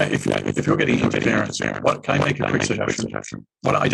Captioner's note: audio distorted